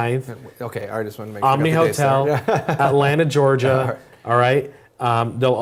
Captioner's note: laugh